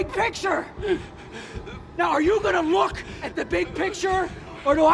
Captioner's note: sobbing, Whimpering